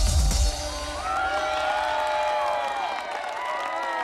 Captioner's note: cheering and applause